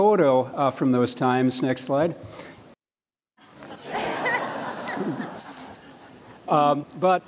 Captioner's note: laughter